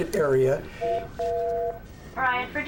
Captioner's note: intercom beeps